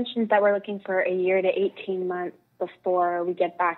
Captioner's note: speaking French